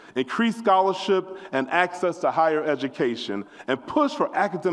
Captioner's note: none